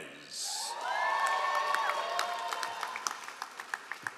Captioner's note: all applauding